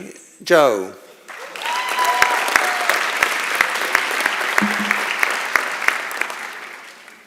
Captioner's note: applause and Cheering